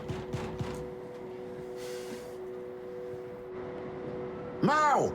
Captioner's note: Sonny pounding on door